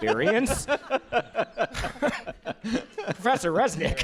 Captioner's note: laughter